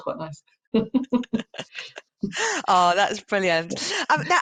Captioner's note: laughs